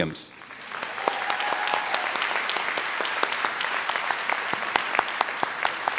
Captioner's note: trustees and audience applaud